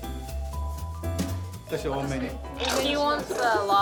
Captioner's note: speaking Japanese